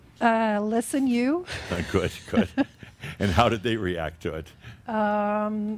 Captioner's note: they chuckle